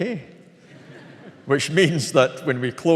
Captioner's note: audience laughing